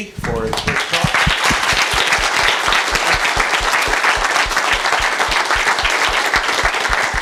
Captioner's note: applause